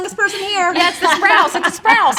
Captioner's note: laughing